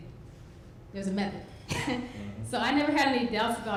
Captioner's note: laughs